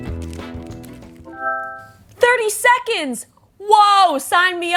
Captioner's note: device chimes